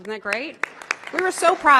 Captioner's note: applause